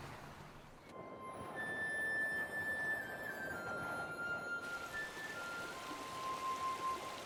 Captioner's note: peaceful music; wind blowing